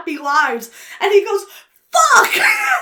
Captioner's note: laughs